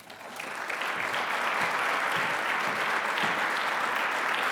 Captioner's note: attendees clapping